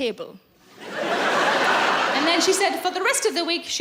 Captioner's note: laughing